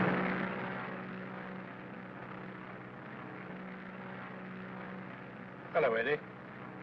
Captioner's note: aircraft engine rumbling; engine softly rumbling